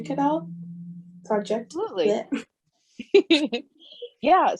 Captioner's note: laughs